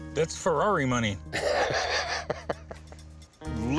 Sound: laughs

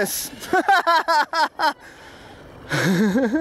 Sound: laughing

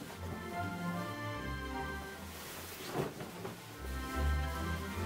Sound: fabric rustling

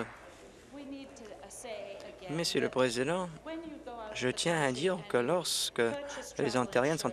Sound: applause

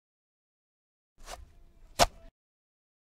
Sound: sound of digging

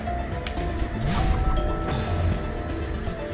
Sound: doorbell

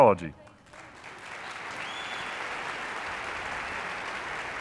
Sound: audience applauding

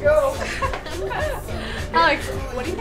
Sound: laughing

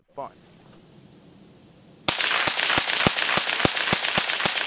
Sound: gun fires

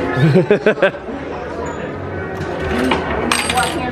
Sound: laughs

